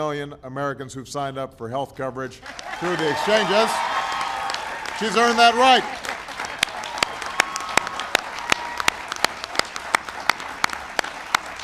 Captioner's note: applause